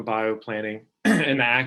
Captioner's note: clearing throat